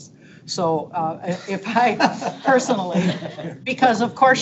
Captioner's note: board members laughing